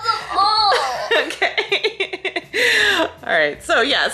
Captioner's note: laughing